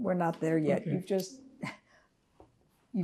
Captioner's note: drinking